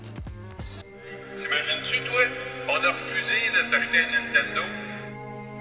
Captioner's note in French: la voix de mon papa au téléphone